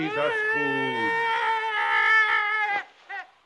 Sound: scrooge yells

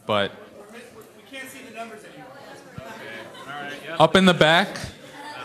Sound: voiceover

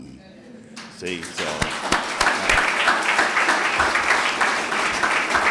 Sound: clapping

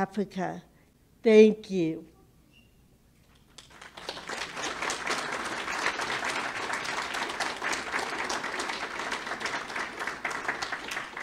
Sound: public clapping

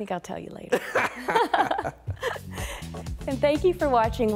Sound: laughing

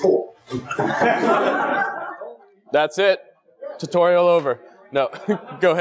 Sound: laugh

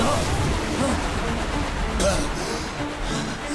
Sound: gasping

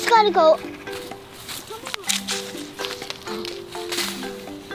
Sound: footsteps rustle in leaves

